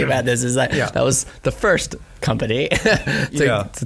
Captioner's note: laughing